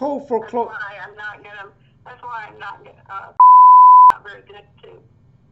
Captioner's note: beep